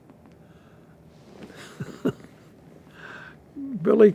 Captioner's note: laughing